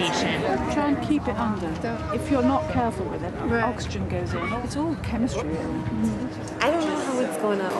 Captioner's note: classroom noise